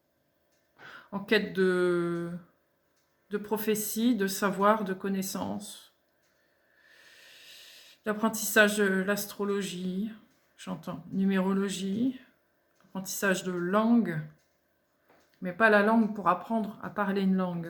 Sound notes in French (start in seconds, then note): 6.4 soupir